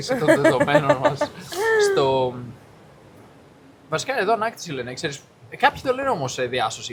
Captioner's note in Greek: γέλια